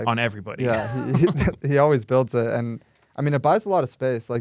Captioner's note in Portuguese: risos